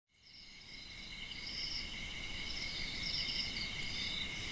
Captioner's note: crickets chirping